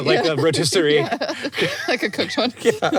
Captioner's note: both laugh